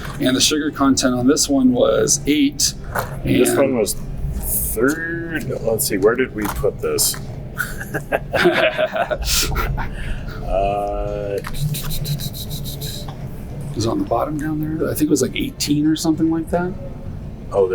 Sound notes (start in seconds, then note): 7.5 laughter; 11.4 tisking sound